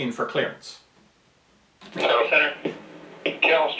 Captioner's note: voiceover